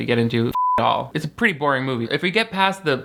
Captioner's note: beep